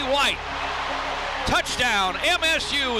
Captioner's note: crowd cheers